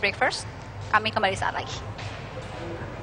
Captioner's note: non-english speech